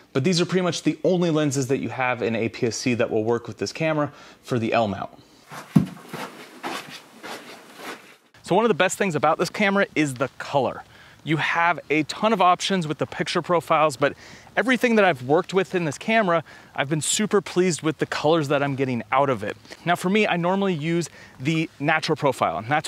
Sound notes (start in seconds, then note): 5.4 footsteps approaching